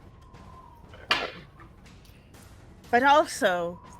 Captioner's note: dice rolls